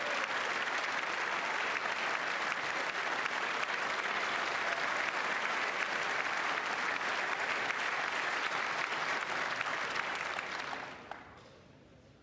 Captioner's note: applause